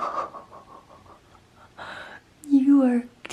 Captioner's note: laughs